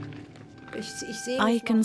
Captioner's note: speaks in foreign language